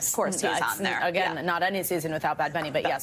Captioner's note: laughter